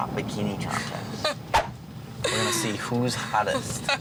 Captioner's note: laughing